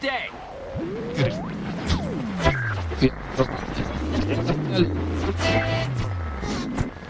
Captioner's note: blurred, glitched noise, the corrupted remains of many many radio shows